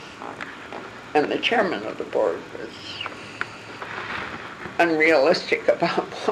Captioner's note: laughing